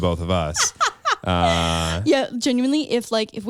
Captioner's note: laughs